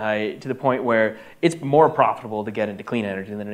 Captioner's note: none